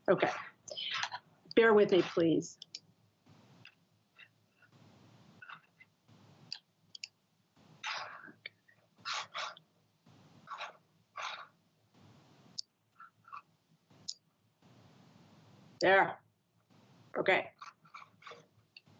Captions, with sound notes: Okay, bear with me, please. (mouse clicking) - There. Okay.